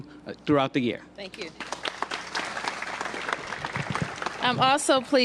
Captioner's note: applause